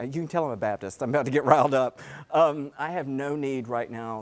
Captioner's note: laugh